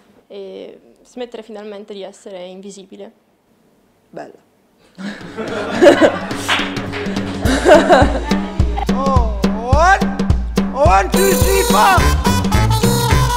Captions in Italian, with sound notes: E smettere finalmente di essere invisibile. ... bella! [Scoppiano a ridere dietro le telecamere]